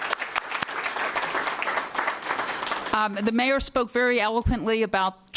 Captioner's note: applause